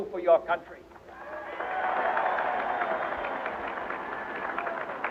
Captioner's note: audience cheering